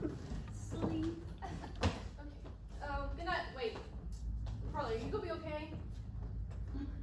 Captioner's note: giggles